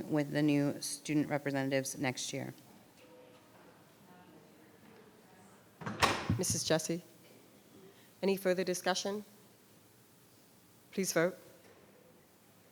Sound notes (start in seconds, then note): 4.6 woman speaking distantly